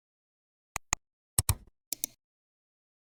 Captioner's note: 3 different clicks